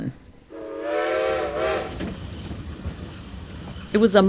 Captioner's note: sound of railway train